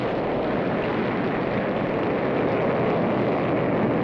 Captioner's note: rocket blasting